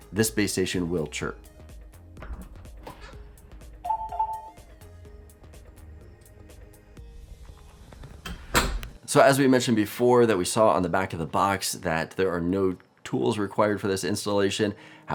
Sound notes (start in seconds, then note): 2.6 chirping sounds; 2.6 door opening; 8.0 door closes